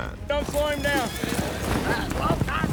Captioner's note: cowboys shouting